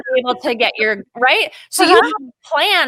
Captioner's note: laughing